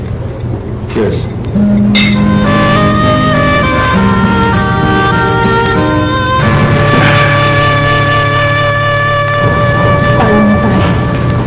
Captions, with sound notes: Cheers. [glasses clink] What about us?